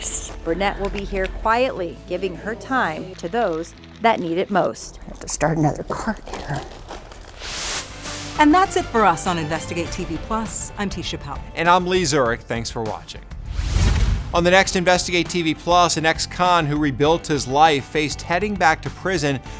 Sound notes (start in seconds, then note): 13.4 swooshing